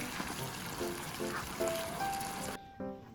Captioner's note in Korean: 자글자글